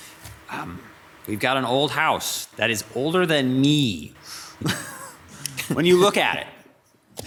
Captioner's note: laughs